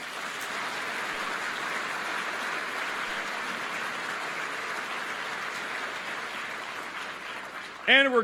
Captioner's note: applause